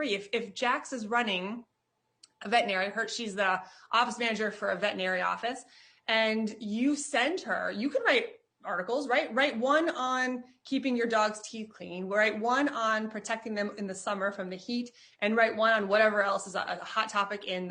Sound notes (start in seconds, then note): none